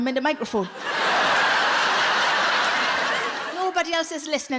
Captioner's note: audience laughs